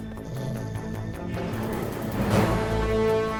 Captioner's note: growling